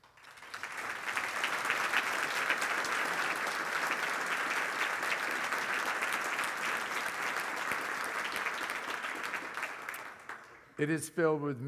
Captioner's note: applause